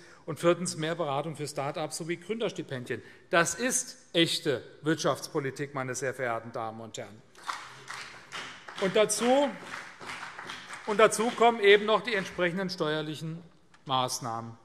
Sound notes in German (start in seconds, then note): 7.4 Beifall CDU und BÜNDNIS 90/DIE GRÜNEN